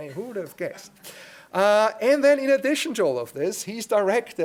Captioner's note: laugh